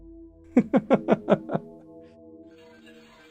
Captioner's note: peevish giggle